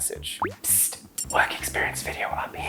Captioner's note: psst